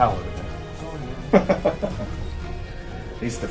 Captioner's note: laughter